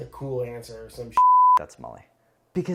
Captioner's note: beeping